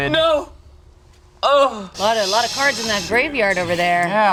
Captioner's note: none